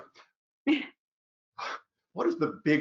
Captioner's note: chuckles